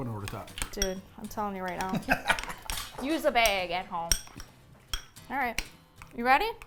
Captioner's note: laughing